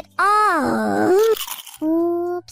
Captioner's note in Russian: хруст